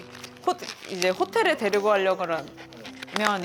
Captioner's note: pat pat